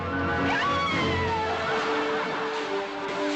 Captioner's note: crowd laughing